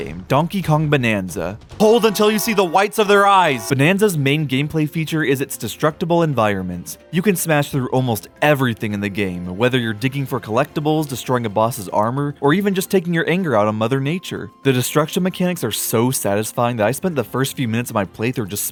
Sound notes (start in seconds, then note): 1.8 alarm blaring